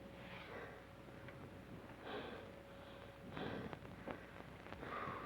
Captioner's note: Trask breathes heavily